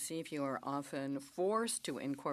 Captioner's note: speaking French